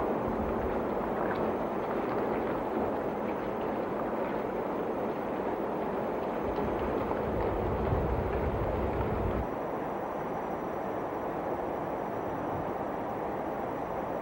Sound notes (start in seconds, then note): 2.3 constant sound of wind and the faint sound of insects chirping